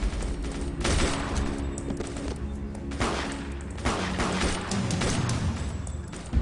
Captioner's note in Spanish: Disparos